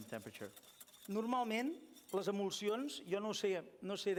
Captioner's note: non-english speech